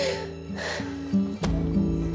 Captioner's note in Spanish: sollozos